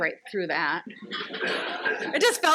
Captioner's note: audience laughs